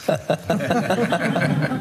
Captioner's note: laughter; excitedly; jokingly